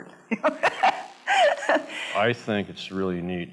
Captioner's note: laughs